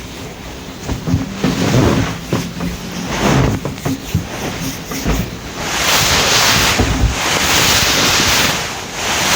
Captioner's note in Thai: เสียงนวดผ่อนคลาย